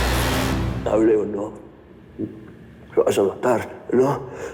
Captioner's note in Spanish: Gemidos